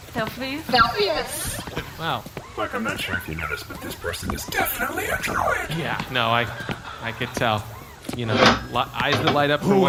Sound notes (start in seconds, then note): 4.5 whispering; 8.0 something metal slides open